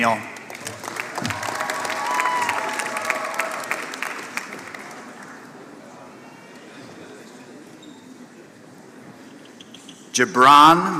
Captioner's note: applause